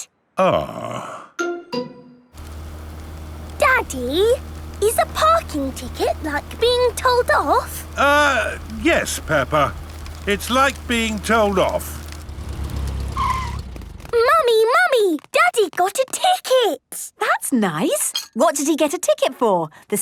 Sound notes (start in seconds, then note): 12.8 tires screeching